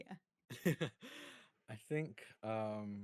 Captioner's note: chuckling